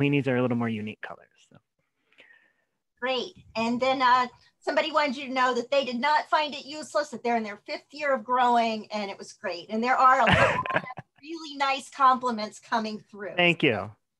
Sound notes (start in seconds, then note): 10.3 chuckle